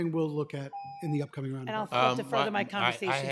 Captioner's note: timer tone